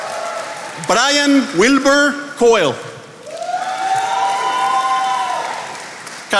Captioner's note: attendees applauding